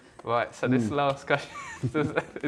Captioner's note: laughs